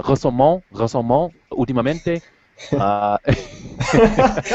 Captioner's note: Spanish